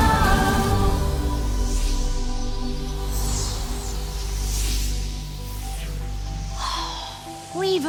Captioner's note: magical whooshes